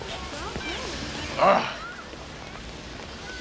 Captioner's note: Gary groans